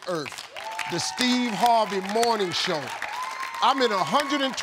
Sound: audience applauds

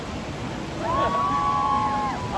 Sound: girls screaming

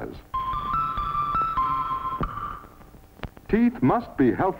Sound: bells ringing

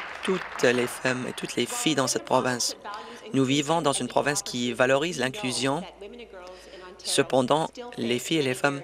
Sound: applause

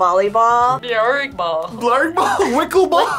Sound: laughs

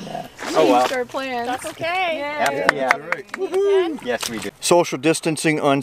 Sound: cheering

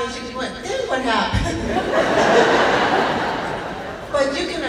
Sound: laughing

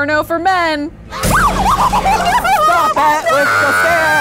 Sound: both shriek

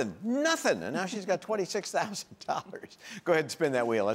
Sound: laughing

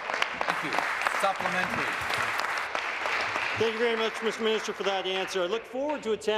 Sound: applause

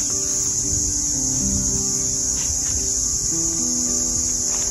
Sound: insect sounds

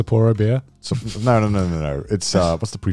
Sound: laughing

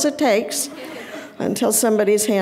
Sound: audience laughing

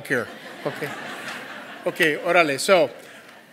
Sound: laugh

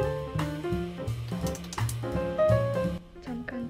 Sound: clap clap clap

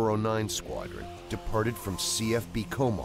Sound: voiceover

